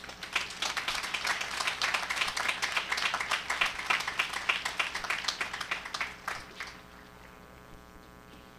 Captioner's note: applause